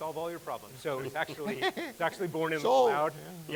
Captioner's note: laughs